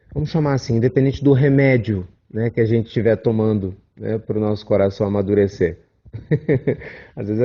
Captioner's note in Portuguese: risos